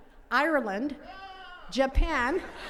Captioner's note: attendees cheering; attendees laughing